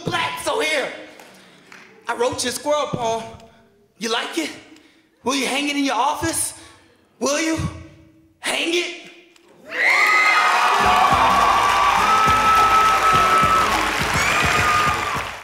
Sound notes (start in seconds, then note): 9.6 audience cheers